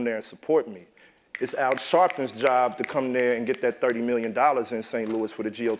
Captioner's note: applause